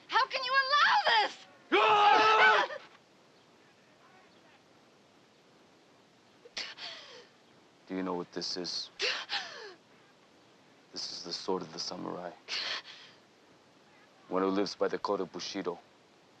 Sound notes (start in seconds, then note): 2.1 shouting